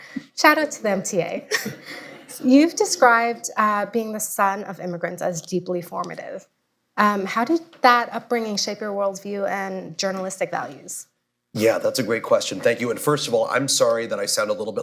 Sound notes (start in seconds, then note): 0.0 laughter; 1.4 laughs; 1.4 laughter